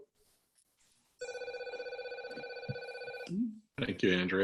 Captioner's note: phone ringing